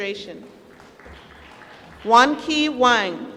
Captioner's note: applause